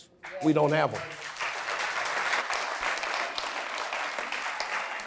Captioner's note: audience applause